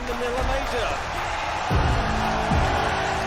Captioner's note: crowd cheering